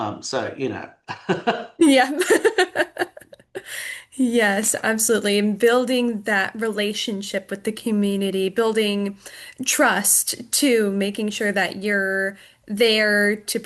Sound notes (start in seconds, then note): 1.0 chuckles; 1.0 laughs